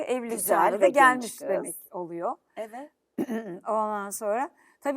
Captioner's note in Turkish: boğazını temizler